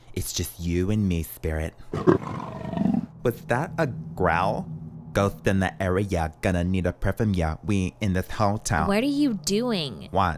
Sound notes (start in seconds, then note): 1.9 growling